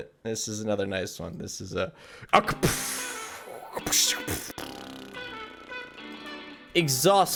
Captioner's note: mimics explosion sounds